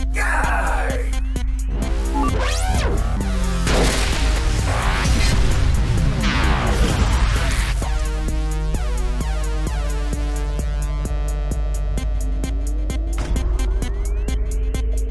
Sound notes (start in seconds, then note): 0.0 Max groans; 1.7 buzzing descends; 4.6 buzzing ascends; 5.9 buzzing descends; 11.5 suspenseful synth music